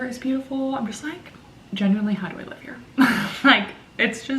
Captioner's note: laughing